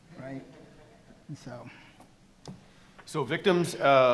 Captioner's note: attendees laughing